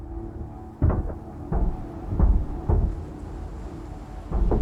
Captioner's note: clanking